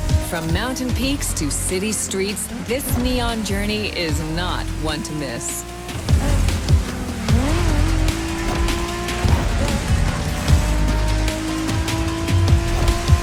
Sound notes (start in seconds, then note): 6.3 car engine revs